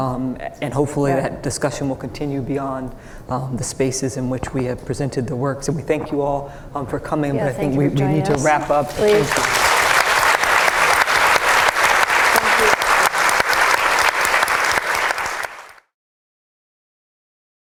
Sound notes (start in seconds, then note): 8.8 applause